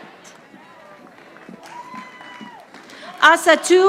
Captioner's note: audience applauding